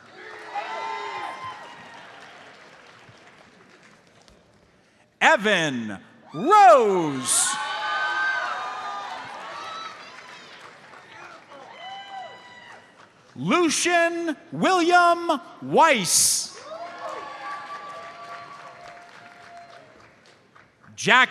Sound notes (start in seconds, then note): 0.0 audience cheers and applauds; 6.3 audience cheers; 9.2 audience applauds; 16.5 audience cheers and applauds